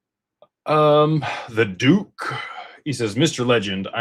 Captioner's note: sighs and gasps